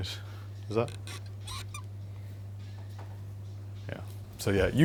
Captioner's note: hands squeaking